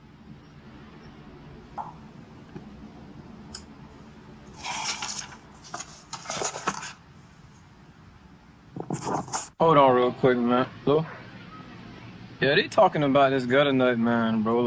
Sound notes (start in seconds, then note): 0.0 city noise increase; 4.5 closes book